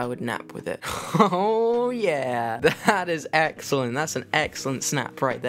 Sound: laughing

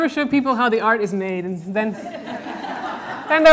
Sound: audience laughter

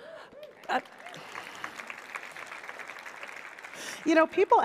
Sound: applause

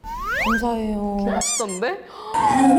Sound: swish swish

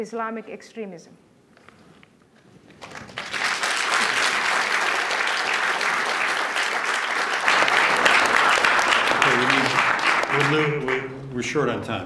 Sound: applause

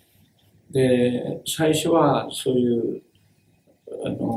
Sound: speaks in Japanese

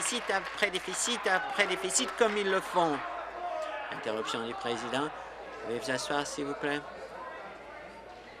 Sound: applause

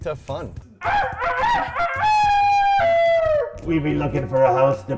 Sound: man rooster crowing

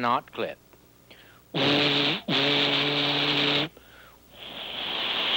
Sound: imitates horn

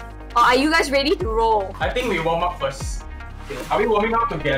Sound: none

